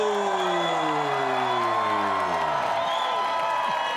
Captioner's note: audience cheering